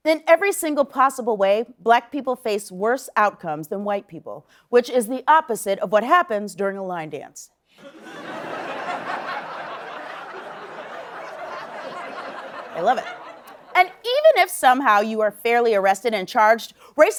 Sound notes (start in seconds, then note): 7.8 laughter